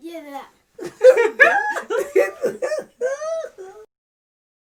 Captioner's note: laughing in unison